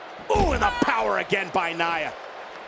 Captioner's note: body thuds